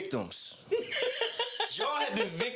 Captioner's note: laughing